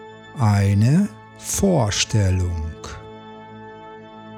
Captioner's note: german